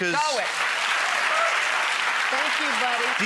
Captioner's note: audience applause